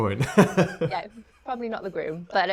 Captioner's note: laughs